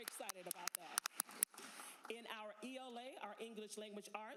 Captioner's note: applause